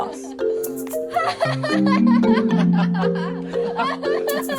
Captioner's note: laughter